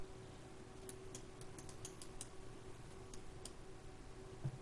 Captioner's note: pen clicking